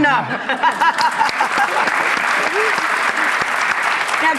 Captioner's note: applause